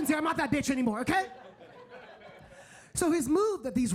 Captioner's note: audience laughing